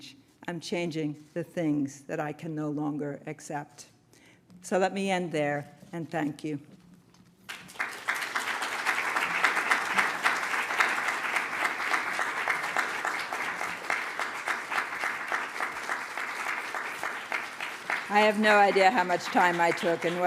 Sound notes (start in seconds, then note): 7.4 applause